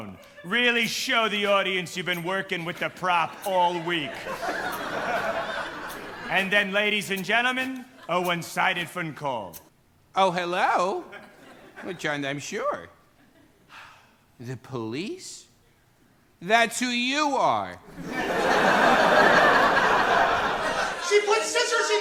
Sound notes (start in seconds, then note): 3.6 laughter; 13.7 gasps; 17.9 laughter